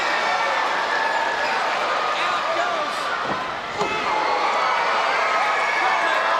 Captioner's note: presenter speaking faintly off mic